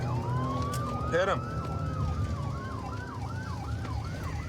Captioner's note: sirens wailing